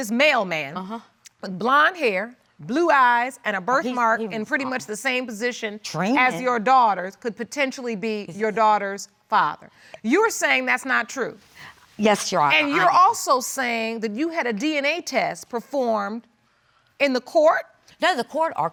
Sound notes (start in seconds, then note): none